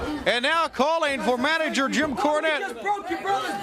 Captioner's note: crowd cheering